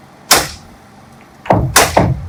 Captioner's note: nail gun firing; wood thudding